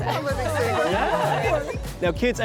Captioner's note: laughter